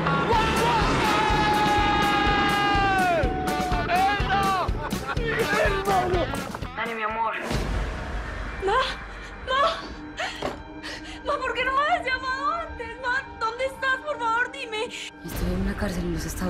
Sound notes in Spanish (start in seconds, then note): 3.3 Exclamaciones